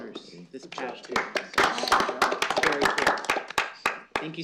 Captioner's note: applause